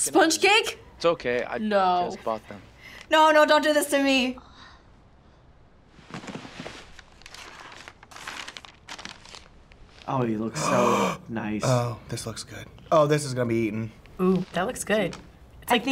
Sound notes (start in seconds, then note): 6.0 paper rustles; 10.5 gasps